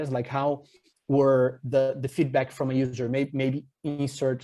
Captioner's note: none